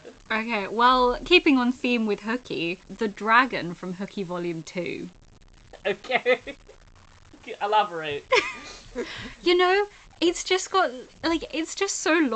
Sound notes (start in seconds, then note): 0.0 laughing; 5.8 laughing; 8.3 laughs